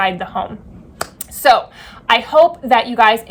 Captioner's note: hands clapping